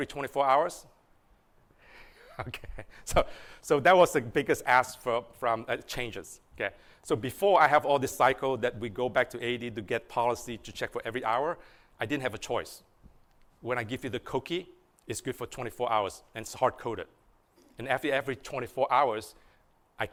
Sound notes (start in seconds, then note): 5.0 laughter